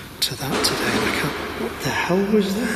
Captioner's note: banging